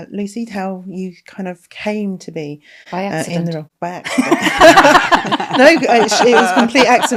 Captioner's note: laughing